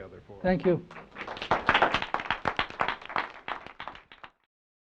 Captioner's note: applause